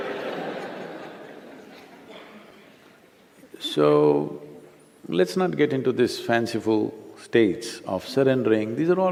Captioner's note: laughter